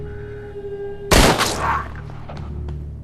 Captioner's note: gunshot